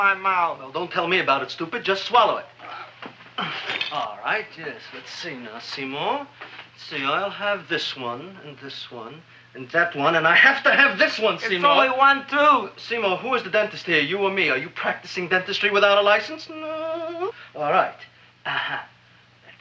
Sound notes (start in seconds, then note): 16.8 Seymour whimpers